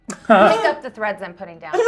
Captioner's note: laughing